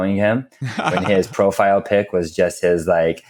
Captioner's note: laughs